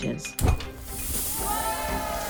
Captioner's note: object clinking; air whooshing; students cheering; bright music